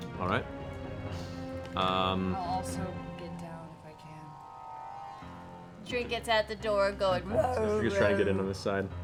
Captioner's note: sad bear noises